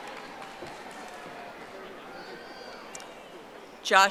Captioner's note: audience applauding